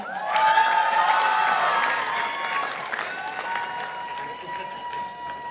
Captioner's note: participants applauding